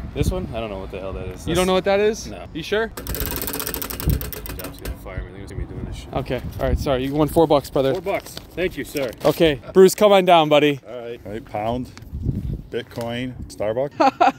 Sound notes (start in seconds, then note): 3.0 wheel whirring; 13.9 laughing